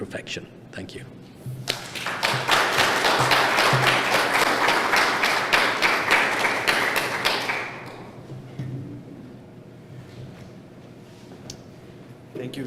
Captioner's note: applause